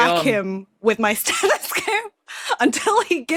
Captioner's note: laughs